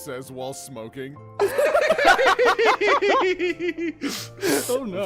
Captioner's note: laughter